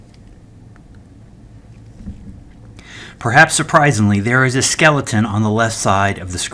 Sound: turn page

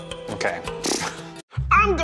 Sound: snorting

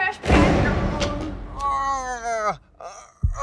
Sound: mangled moan

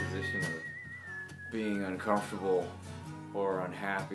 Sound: speaks

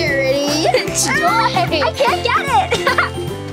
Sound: laughs

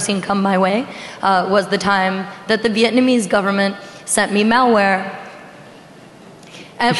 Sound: laughing

